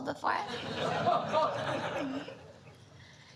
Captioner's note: audience laughter